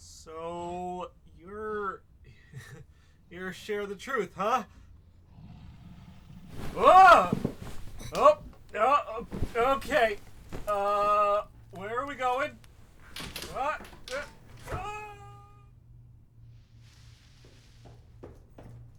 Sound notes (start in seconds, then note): 12.3 Gorilla carries Kyle out the window, glass breaking, falling; 14.9 Kyle yells, they land in bushes; 17.4 footsteps coming up stairs